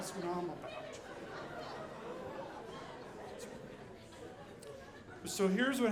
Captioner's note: audience laughing